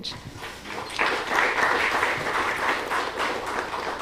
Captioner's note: applause